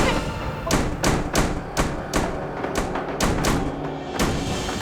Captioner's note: doors slamming